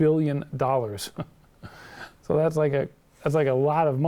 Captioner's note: laughs